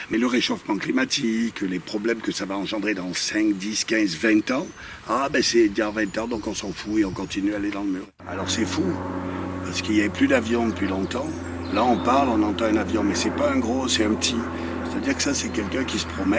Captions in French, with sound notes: Mais le réchauffement climatique, les problèmes que ça va engendrer dans 5, 10, 15, 20 ans, ah bah c'est dans 20 ans donc on s'en fout et on continue d'aller dans le mur. [Bruits d'avion] Alors, c'est fou parce qu'il y avait plus d'avions depuis longtemps, là on parle et on entend un avion, mais c'est pas un gros, c'est un petit, c'est-à-dire que ça c'est quelqu'un qui se promène